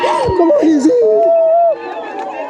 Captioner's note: sobbing; speaking in foreign language; crowd cheering